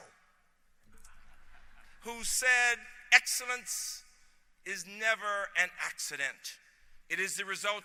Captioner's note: laughter